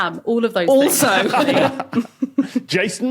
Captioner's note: group laughing